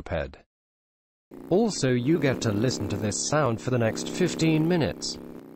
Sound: really annoying moped sound

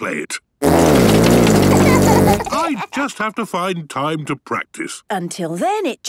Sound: laughter

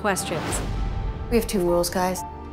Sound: sound effects

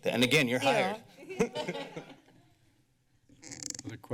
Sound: laughter

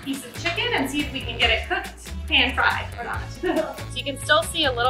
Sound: laughs

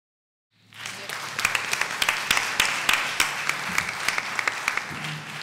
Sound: applause

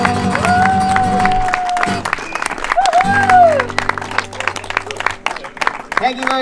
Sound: singing; applause

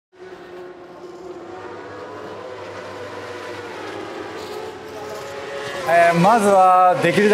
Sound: sound of motorcycles on a racetrack

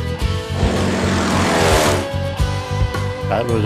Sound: airplane engine

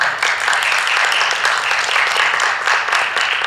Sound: applause

